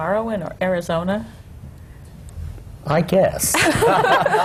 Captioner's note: laughter